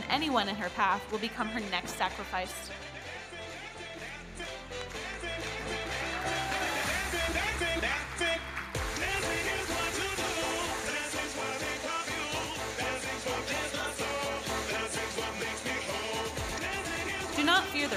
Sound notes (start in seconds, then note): 6.8 audience cheering and applauding